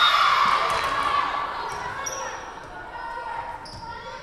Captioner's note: whistle blowing